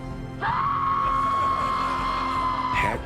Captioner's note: muffled scream